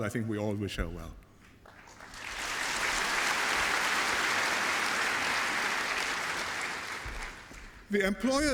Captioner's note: applause